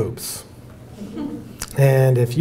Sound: audience laughing

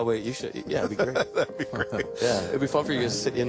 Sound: interviewer laughing

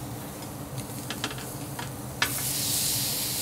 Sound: sizzling sounds

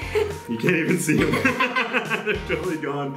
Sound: laughing

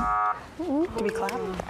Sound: upbeat music; buzzing sound

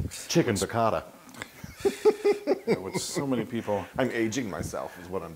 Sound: laugh

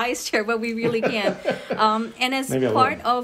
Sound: laughs

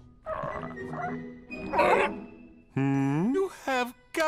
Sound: barks

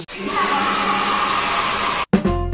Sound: static noises in an echoey room; kids cheering in an echoey room; party horn in an echoey room

